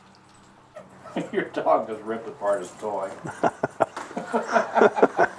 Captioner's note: laughter